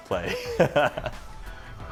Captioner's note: chuckles